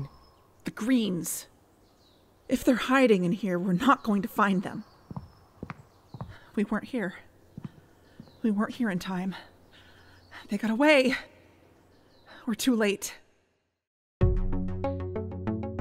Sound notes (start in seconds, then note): 5.0 footsteps; 14.2 theme music plays